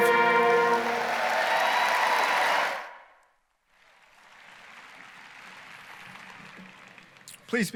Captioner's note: applause, cheering